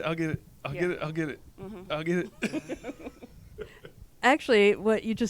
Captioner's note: laughs